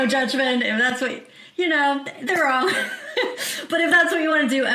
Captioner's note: chuckles